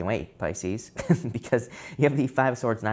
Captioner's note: tarot reader laughs